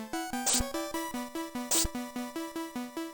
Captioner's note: step